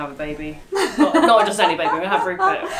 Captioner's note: laughs